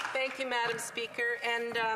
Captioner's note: applause